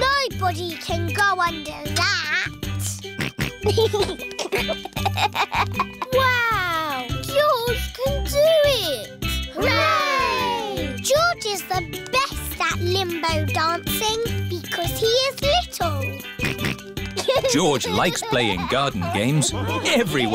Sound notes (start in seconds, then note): 3.2 snorts and giggles; 16.4 snorts